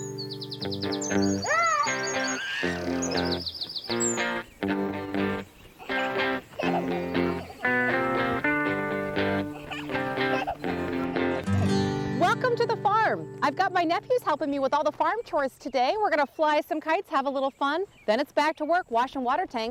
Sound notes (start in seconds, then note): 0.2 upbeat guitar music; 5.7 children giggling